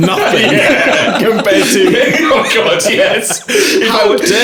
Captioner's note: laughing